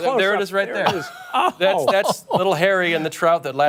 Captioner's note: laughter